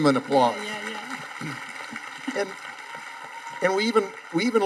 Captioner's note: audience applauding